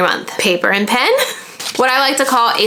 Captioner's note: laughing